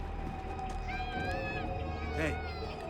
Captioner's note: children laughing